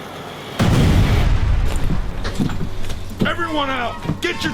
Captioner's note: explosion bangs